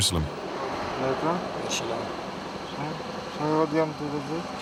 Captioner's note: French spoken audio